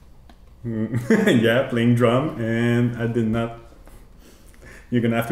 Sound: laughs

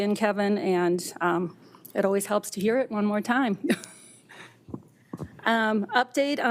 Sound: laughs

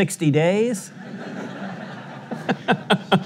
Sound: sudience laughter

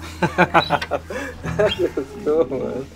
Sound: laughing

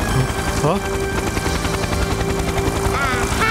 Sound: humming

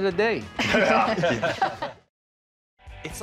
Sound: laughter

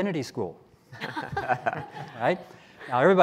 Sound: laughing

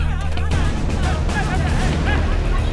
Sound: crowd shouting

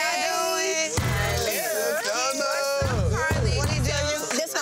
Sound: group chattering

